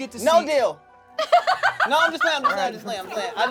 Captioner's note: laughing